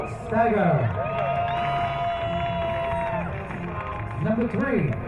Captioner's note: crowd cheering